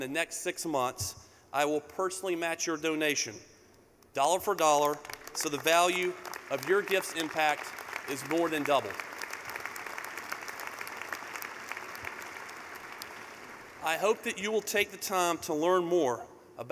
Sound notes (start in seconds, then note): 10.5 clapping